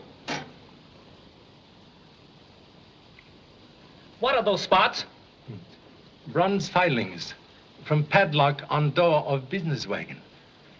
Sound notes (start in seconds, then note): none